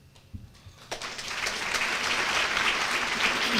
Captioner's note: applause